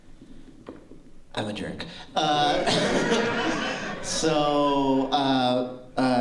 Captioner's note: laughter